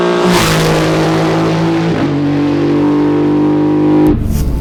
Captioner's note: car engine blasting